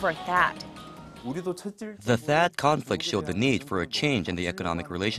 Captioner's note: Korean